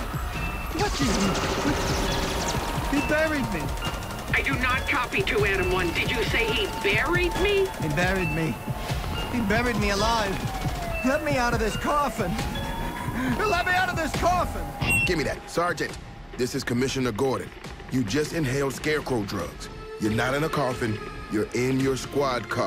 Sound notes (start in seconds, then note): 2.8 gunfire; 10.4 sirens wailing